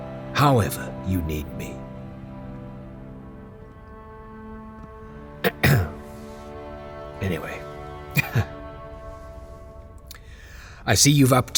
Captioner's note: clearing throat